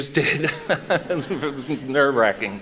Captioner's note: chuckles